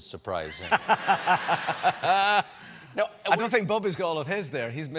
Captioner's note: laughter